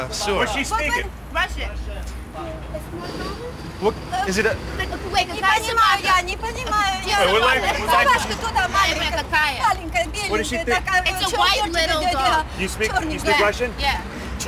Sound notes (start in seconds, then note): 5.2 speaking in Russian